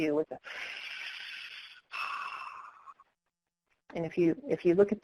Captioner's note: inhaling and exhaling